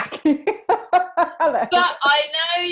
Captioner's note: laughs